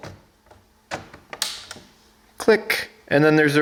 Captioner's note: snap